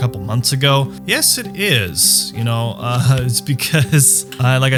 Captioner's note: chuckles